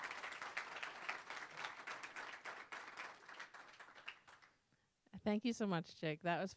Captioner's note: applause